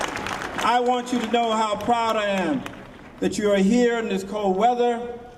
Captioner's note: cheers and applause